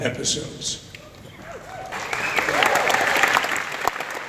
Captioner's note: audience Applauds